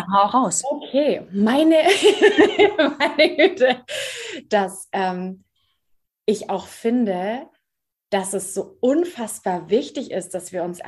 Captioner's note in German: lachen